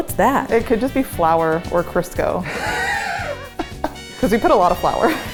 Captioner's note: laughs